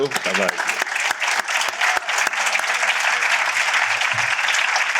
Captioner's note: applause